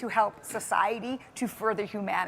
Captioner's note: none